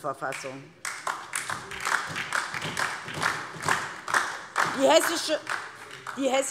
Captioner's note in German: Beifall DIE LINKE und vereinzelt SPD